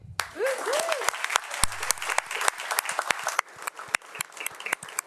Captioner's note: crowd applauding